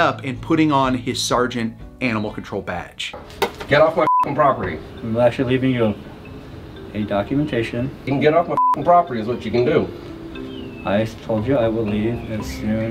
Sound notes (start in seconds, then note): 4.0 beep; 8.5 beep